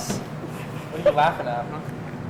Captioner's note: student laughs